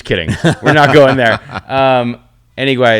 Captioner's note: laughs